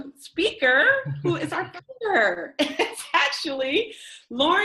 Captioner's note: chuckles; laughs